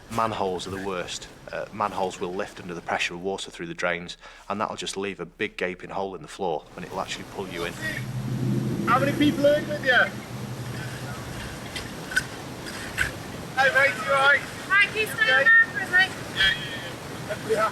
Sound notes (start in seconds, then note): 10.4 water drowns out speaker